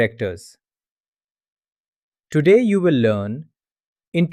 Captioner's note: pause